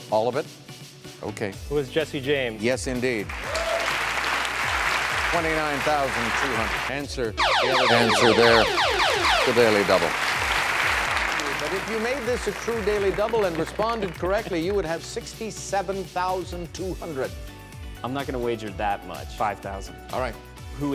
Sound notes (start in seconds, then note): 3.2 clapping; 7.4 zapping